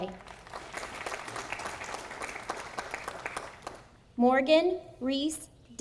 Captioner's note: audience applauding